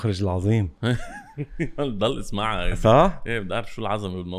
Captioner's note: laughs